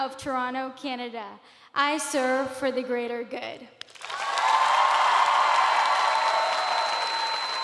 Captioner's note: cheers and applause